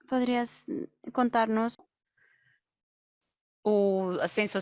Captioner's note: translator speaks in Spanish